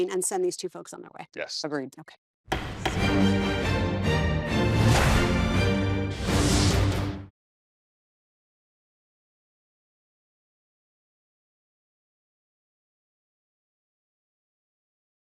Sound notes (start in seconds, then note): 2.5 gavel banging; 2.5 lively music